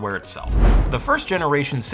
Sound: transition whooshes

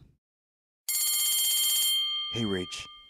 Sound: bell rings

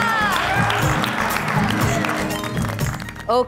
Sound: applauding

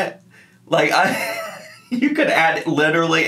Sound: laughing

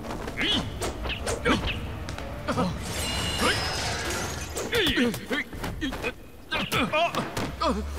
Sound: fighting sound

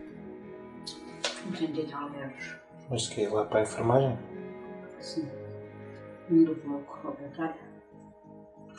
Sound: speaking in Portuguese

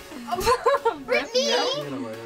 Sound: laughs

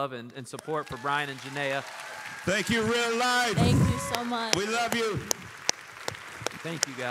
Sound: applause

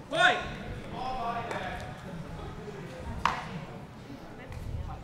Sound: chattering

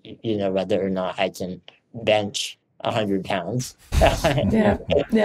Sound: chuckles

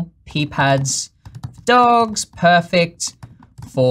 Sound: fast typing

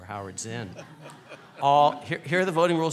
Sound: laughing

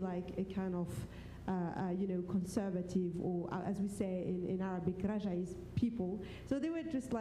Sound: foreign language

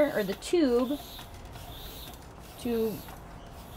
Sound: pump whooshing

